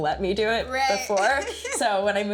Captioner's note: chuckles